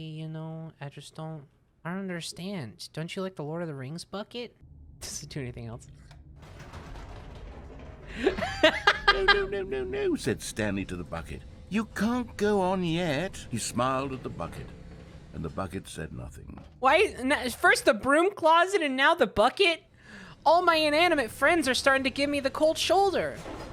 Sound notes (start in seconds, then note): 6.6 elevator moving; 8.1 laughs